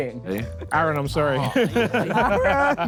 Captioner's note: Sidemen laugh